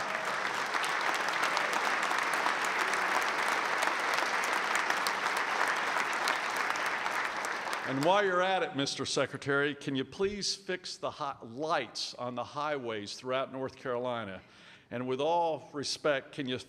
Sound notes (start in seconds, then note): 0.0 applause